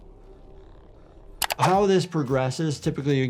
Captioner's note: mouse clicks